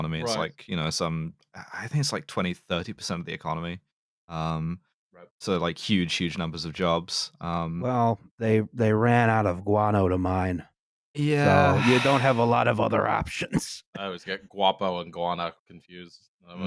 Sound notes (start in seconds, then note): 11.3 sighs